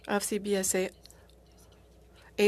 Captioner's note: speaking French